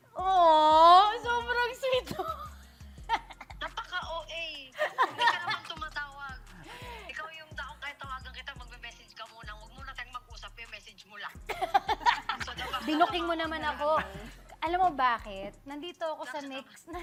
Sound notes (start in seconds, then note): 3.0 giggles; 4.8 laughs; 11.5 laughs; 16.2 laughs